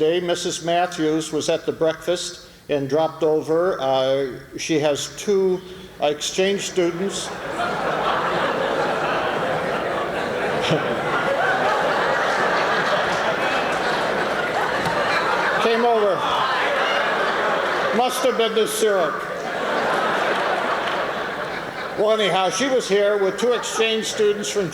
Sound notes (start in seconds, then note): 8.0 laughter